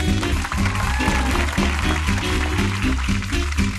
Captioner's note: applause